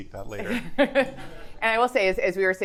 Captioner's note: attendees chuckling